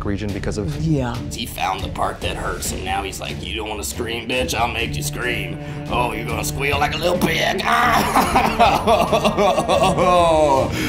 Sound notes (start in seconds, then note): 9.3 grunting